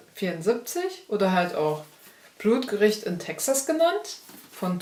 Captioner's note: in german